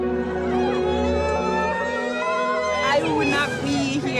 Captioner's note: soft music; all cheering